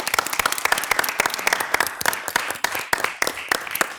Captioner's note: people clapping